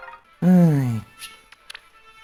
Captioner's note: sigh